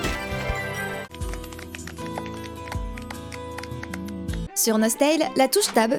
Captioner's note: applause